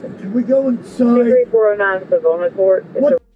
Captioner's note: radio chatter